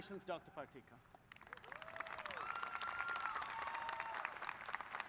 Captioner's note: applause